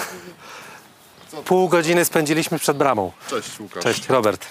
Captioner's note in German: spricht polnisch